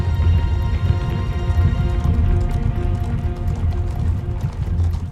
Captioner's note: hooves clomping